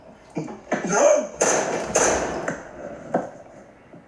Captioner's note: gunshots